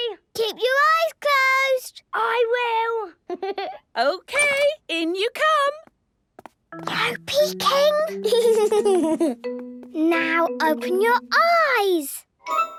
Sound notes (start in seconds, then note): 3.4 Danny laughing; 6.5 whispering; 8.1 Danny giggling